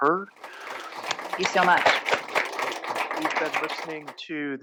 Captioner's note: applause